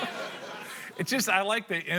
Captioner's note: laughter